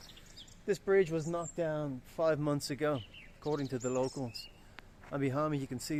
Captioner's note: in a Russian attack